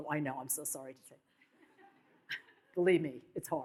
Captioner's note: audience laughs